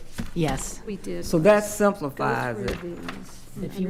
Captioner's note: speaking quietly